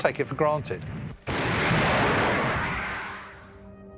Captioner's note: explosion